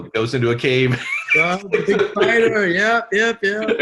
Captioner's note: laughs